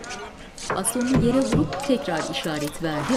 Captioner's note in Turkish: Bastonla vurma sesi